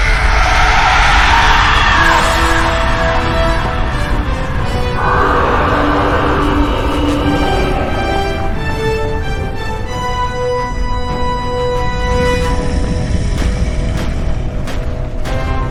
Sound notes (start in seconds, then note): 0.2 creature roaring; 2.9 dramatic orchestral music; 4.6 dinosaur roaring